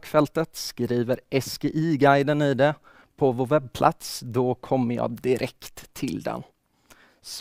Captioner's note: in Swedish